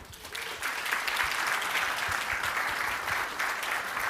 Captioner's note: applause